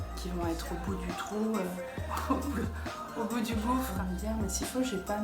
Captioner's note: laugh